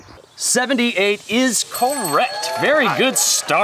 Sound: dinging and cheering

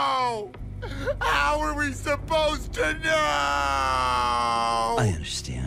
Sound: crying and screaming

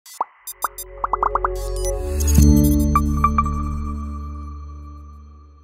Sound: logo popping; gentle music

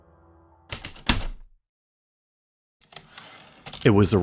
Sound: typewriter keystrokes, return slide

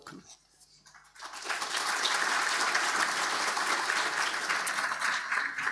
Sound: audience applauding

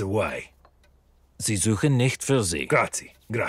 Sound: speaking italian

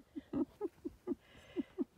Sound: giggle

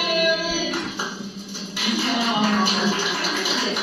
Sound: all applauding

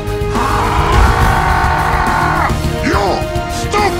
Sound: Heavy screams violently

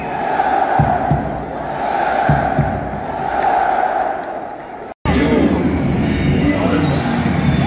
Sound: clap

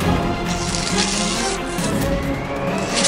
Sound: papers tearing

